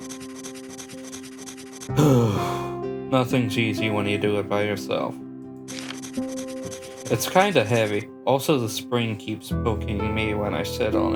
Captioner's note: exhale